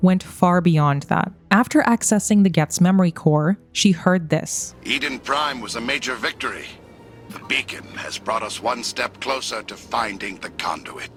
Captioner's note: Geth memory core playing